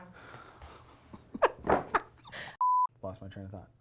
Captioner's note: both laughing; beep